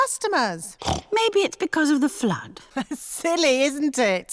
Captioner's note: snorts; laughs